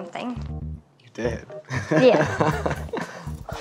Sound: laughs

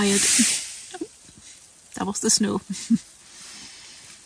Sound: sound of snow sliding down the tent; laughs

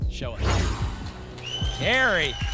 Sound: whoosh

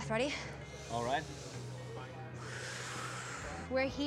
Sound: inhales, exhales

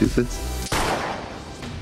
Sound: gunshot

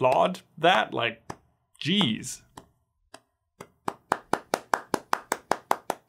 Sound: hands clapping

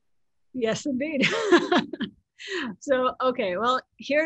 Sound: laughs

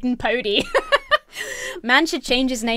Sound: laughs

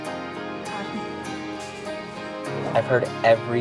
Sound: class chattering

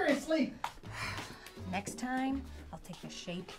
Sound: Maha sighs

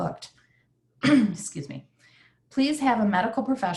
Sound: clears throat

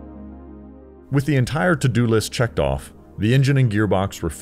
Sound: voiceover

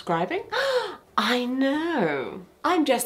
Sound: gasps

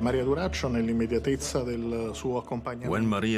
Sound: ominous music; speaking in Italian

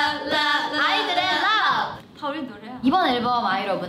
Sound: speaking in Korean

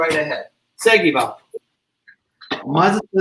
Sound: speaks portuguese

